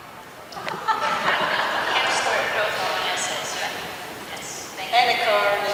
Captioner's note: audience laughs